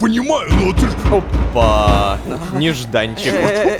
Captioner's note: knock on the door